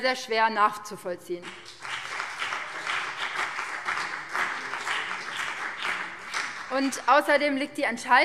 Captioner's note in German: Beifall BÜNDNIS 90/DIE GRÜNEN und vereinzelt CDU